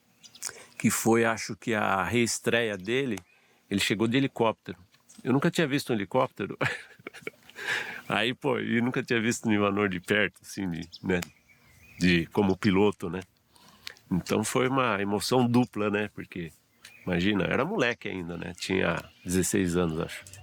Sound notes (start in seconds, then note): 6.4 laugh